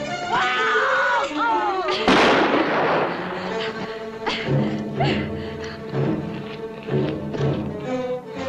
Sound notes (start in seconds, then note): 2.0 gunshot